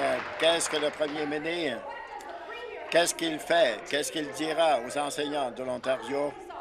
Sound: some Applause

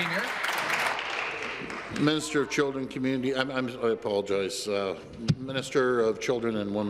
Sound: applause

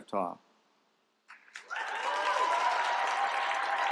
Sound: applause

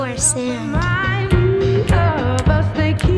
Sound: snapping rhythmically

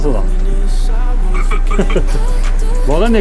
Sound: laughs

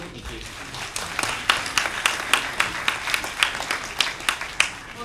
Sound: applause

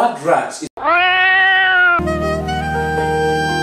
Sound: cat meowing

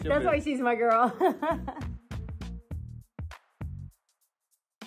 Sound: laughs

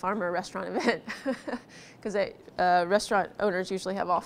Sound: laughs

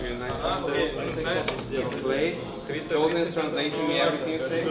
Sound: players chattering

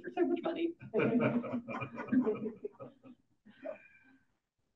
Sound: audience laughing

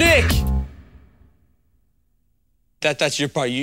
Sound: kids are silent

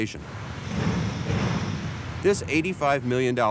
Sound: metal thudding

